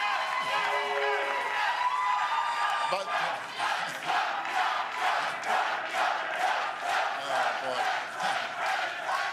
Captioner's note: cheers and Applause